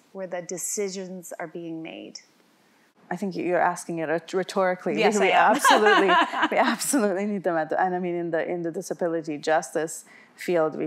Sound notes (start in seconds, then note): 5.0 laughs